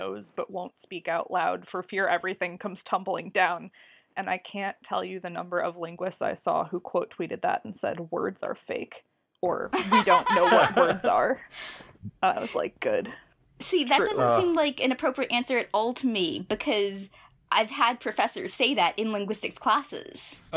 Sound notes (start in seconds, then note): 9.7 laugh